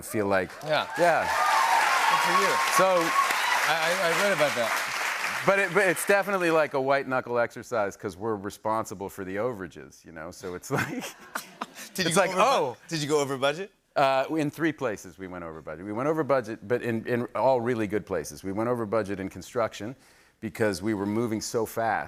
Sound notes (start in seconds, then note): 0.4 cheers and applause; 10.6 laughter